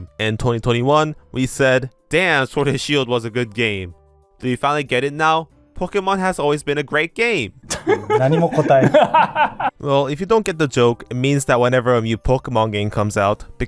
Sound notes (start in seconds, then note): 7.6 laughter